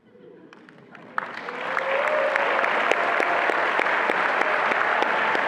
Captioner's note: attendees applauding and cheering